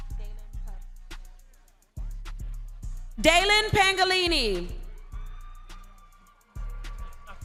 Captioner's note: lively music continues; crowd cheering